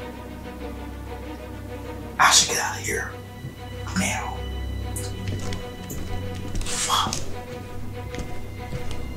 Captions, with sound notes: I should get out of here now (footsteps) Fuck!